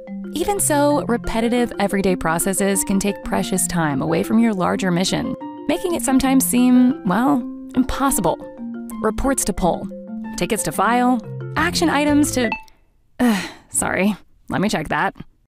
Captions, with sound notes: Even so, repetitive everyday processes can take precious time away from your larger mission, making it sometimes seem, well, impossible. Reports to pull, tickets to file, action items to-- [Message dings] [Sigh] Sorry, let me check that.